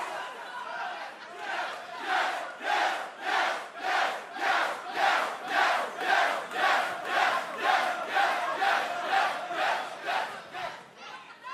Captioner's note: crowd cheering